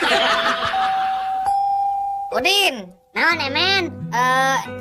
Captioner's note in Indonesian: tertawa